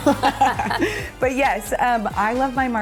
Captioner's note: laughing